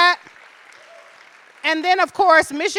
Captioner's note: audience appluading